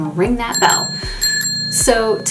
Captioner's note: bell ringing